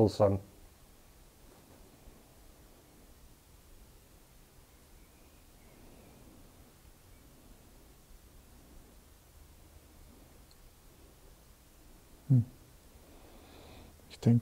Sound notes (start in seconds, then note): 0.2 silence in the background